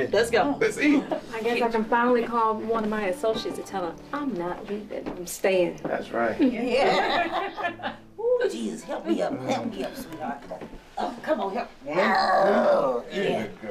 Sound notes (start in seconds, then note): 6.4 laughter at once